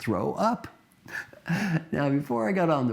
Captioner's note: laugh